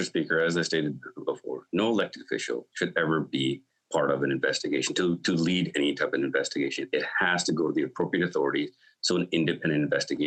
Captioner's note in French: voix de l'interprète